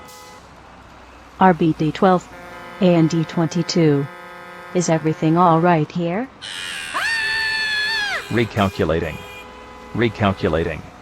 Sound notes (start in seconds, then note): 6.4 trucks honking and braking, man and woman screaming